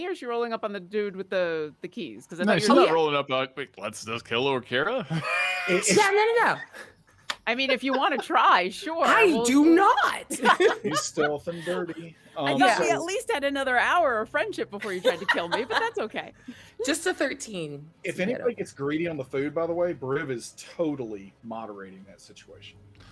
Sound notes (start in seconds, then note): 5.4 wheezes; 10.0 laughs